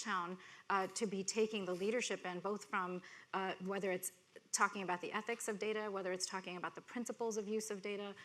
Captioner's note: none